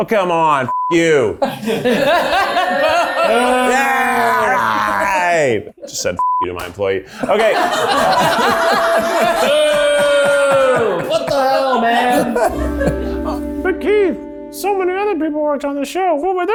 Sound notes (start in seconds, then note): 0.7 beep; 1.4 people in the background laughs happily; 3.9 teasing each other loudly; 6.2 beep; 7.1 everyone in the background laughs happily; 9.7 everyone in the background teasing loudly